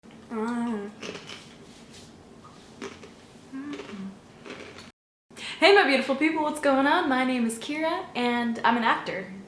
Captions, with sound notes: *simultaneous humming + crunching* hey my beautiful people, what's going on? my name is Keara and i'm an actor.